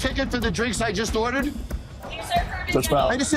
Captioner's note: employee yells in background